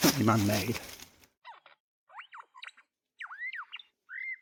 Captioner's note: bird squawks